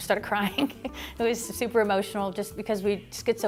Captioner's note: laughs